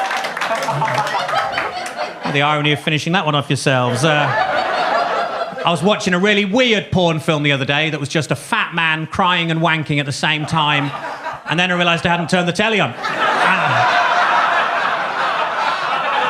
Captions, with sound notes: The irony of finishing that one off yourselves. (audience laughs) I was watching a really weird porn film the other day that was just a fat man crying and wanking at the same time. (audience chuckles) And then I realized I hadn't turned the telly on. (audience laughs)